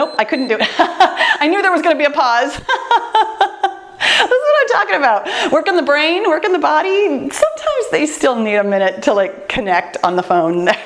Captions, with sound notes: Nope, I couldn't do it. (laughs) I knew there was gonna be a pause! (laughs) That's what I'm talking about, working the brain, working the body. Sometimes they still need a minute to like connect on the phone.